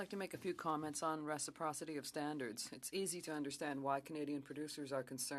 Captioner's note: speaking French